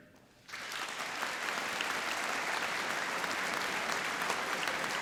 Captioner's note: applauding